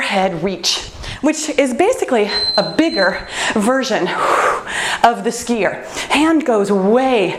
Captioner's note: timer beeps